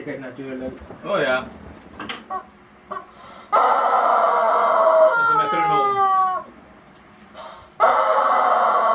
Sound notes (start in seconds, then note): 2.9 chicken noise